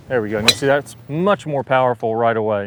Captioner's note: club clacks